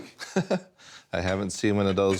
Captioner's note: laughs